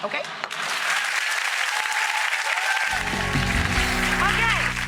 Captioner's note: crowd cheering